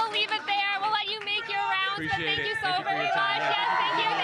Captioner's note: applause